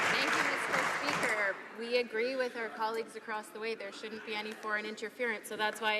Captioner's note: applause